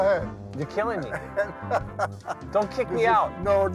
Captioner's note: laughing